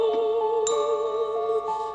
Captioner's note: ding